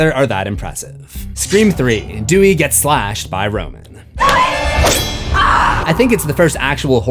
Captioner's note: screams